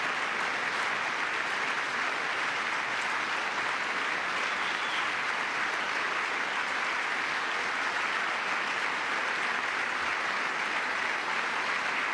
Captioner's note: applause